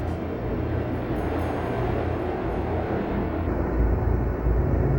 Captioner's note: wind howling